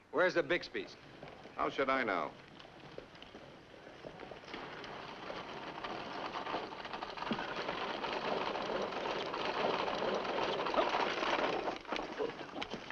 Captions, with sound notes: Where's the Bixby's? - How should I know? (horse cart rattling)